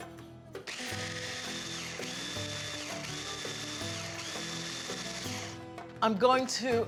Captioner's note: pulsing